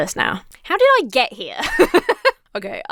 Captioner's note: laughs